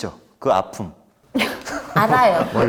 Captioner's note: laughing